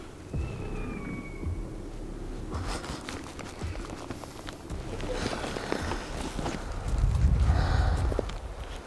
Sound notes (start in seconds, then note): 0.1 elk bugling; 2.4 laughing